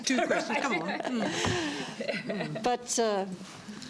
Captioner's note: laughter